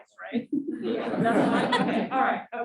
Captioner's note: audience laughing